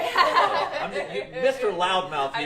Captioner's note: laughter